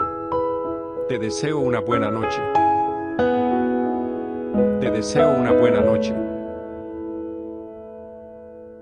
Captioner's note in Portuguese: espanhol